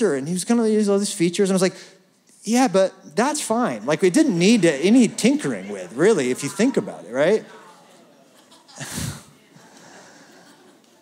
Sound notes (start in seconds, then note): 7.4 laughter